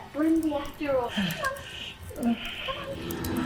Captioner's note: Johnny gasps; tense music